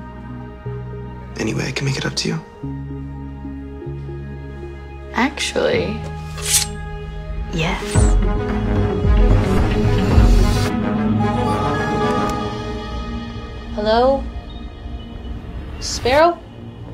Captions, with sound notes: - Any way I can make it up to you? - Actually... [Knife scrapes] Yes. [Dramatic music] - Hello? Sparrow?